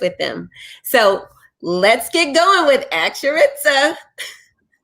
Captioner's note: chuckles